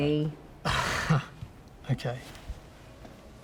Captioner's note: laugh